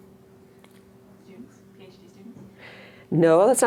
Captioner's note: voiceover